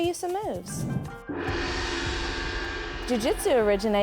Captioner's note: gong clangs